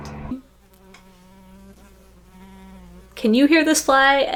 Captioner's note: fly very loudly buzzing